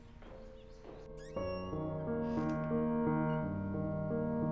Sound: delicate piano music; door slams; delicate piano music continues

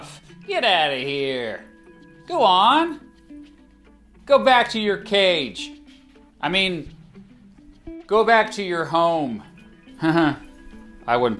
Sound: nervous laugh

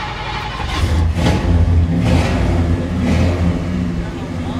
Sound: engine revs

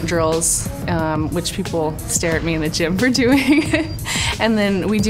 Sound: laughing

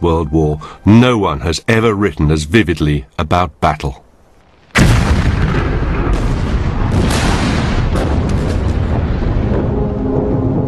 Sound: noises of exploding shells

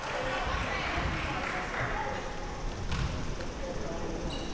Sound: applause

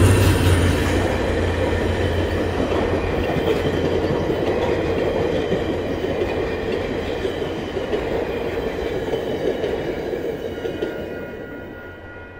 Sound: engine noise intensifies, mostly drowning out the e-bell; passenger car trucks whooshing over crossing

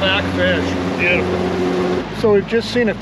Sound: boat engine running

